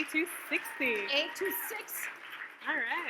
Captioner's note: audience claps